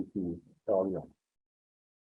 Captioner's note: speaking foreign language